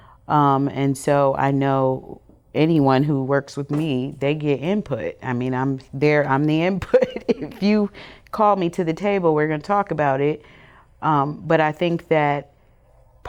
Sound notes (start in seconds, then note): 6.9 chuckles